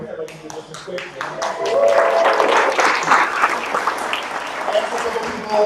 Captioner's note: clapping drowning out speaker